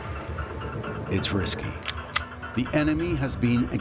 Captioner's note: gun loading